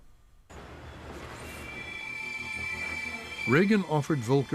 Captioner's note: train 's brakes squealing